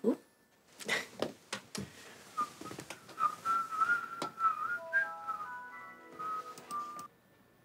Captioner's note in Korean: 휘파람 소리